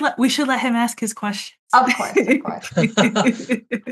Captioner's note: laughs